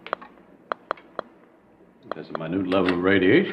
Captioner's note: device crackling